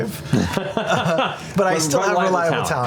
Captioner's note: laughter